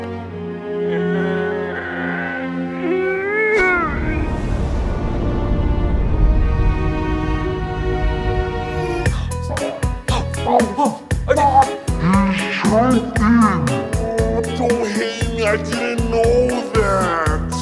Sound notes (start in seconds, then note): 0.2 sad music; 4.4 sad noises; 11.9 choking; 12.7 wacky music